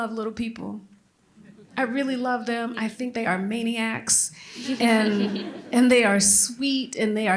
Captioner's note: laughter